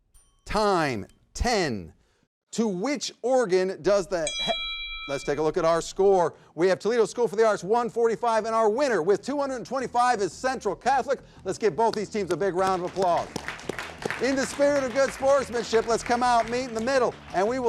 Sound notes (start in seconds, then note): 0.0 bell dings; 4.2 bell dings; 13.6 everybody clapping